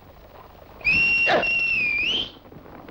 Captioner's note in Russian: всадник свистит